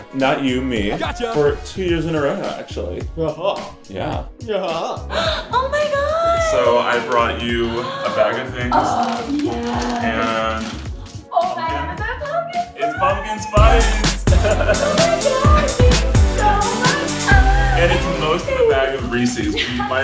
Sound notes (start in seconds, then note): 5.0 sighing; 14.1 upbeat music